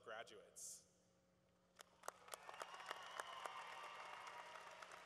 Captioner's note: cheering